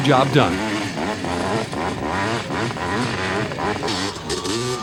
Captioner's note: engines rev and splutter